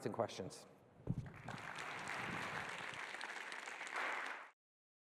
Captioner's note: applause